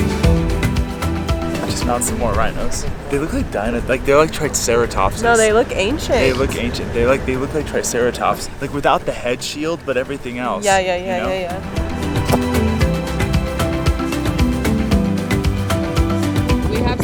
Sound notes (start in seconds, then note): 12.1 smacking lips loudly; 13.1 feel-good music continues